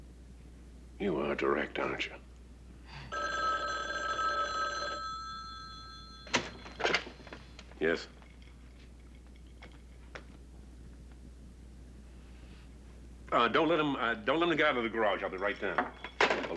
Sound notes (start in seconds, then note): 3.1 telephone rings